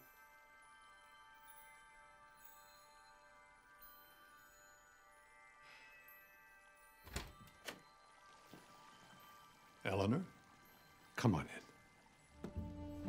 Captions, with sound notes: (light melodic music) (door opening) - Eleanor, come on in.